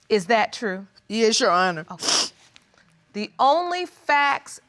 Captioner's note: sniffs